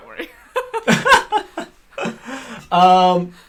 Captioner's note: laughter